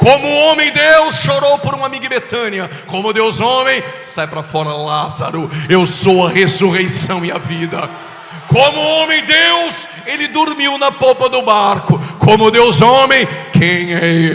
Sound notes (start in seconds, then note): 9.6 shout